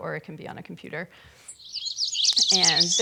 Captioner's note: birds chirping